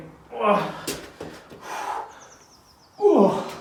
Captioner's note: grunts